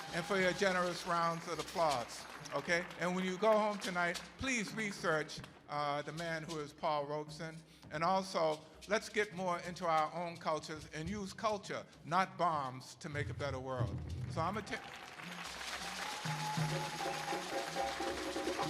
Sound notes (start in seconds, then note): 3.2 people applauding; 14.3 people cheering; 16.4 drumming